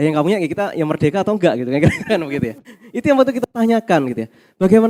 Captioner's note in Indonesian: tertawa